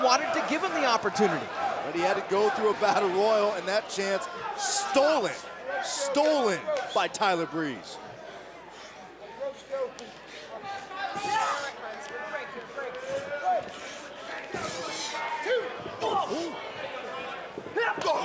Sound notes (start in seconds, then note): 7.7 crowd chatter